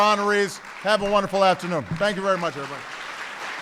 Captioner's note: applause